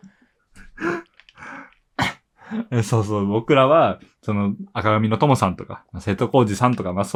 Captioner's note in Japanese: 息をのむ音